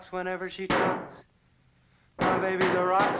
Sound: hammer thudding

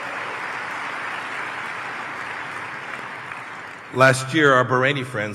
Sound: applause

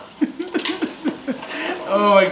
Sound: foreign language; laugh

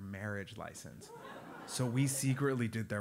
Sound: laugh

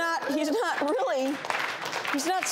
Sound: audience applauds

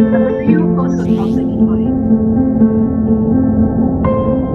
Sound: faintly speaking

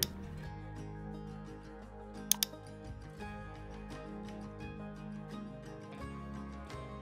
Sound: gentle music; mouse clicking

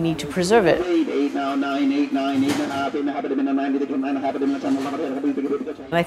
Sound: auctioneer chant

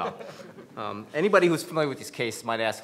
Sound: panel laughs

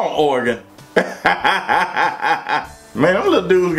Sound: hysterical laughter

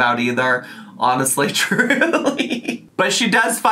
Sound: laughs

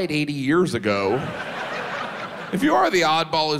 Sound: audience laughs

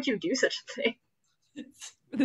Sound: laughs

